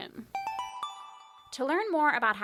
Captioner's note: chime